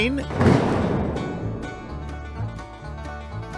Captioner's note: crash